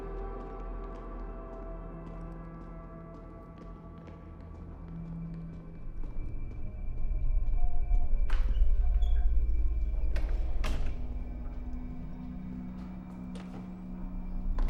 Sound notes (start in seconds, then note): 10.2 door closes